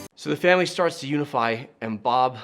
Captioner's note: none